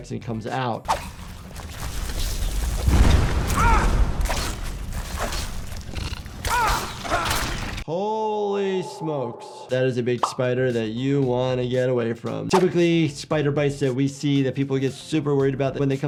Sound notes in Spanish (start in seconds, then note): 2.9 Bola de fuego explota; 3.4 el personaje grita; 5.4 la araña gruñe; 6.4 el personaje grita de dolor